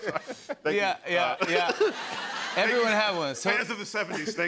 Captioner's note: laughter